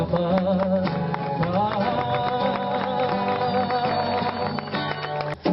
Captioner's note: applause drowns the song